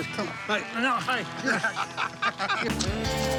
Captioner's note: laughter